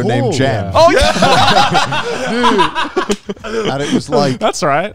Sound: all laughing

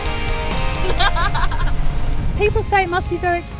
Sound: laughs

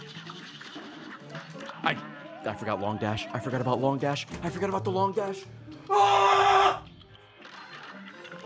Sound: screams

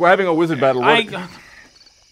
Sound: broken sigh

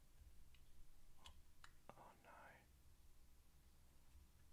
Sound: whispers

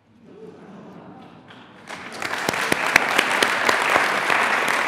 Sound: audience applauding

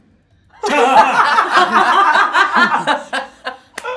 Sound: all laughing

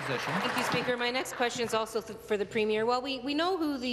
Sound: applause

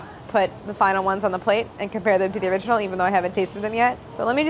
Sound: none

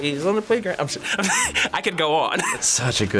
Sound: laughs

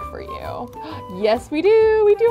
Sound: gasps

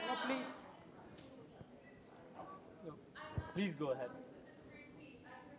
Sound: audience member shouting

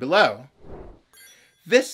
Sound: whoosh

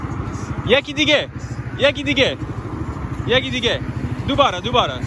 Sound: Farsi

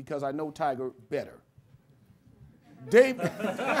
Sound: laughter

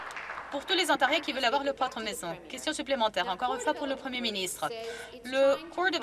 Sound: some Applause

